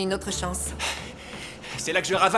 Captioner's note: sighs